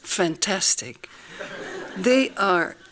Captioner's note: laughing